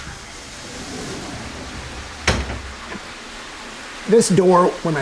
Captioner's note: water cascading quietly